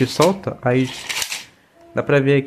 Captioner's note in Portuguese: cordinha do lançador voltando